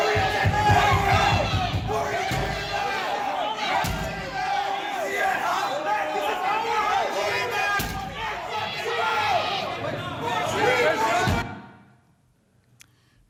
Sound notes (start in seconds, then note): 0.0 yelling